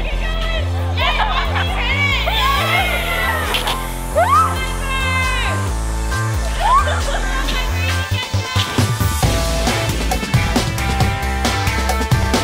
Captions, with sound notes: - Keep going! (shouting) (pop music) - Go Piper! (pop music) Go Piper, you need to catch up. (pop music)